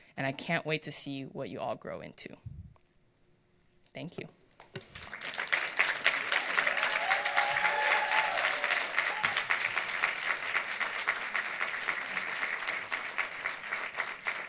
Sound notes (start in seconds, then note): 5.0 audience applauds